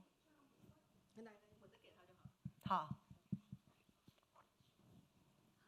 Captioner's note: speaking Mandarin; speaking foreign language; speaking Mandarin